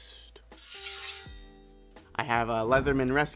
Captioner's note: sword clinking